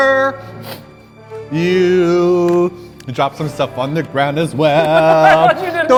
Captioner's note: sniffles